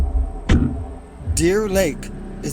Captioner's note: door clomps